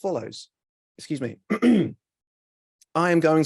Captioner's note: clears throat